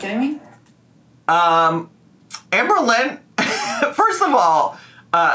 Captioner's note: laughs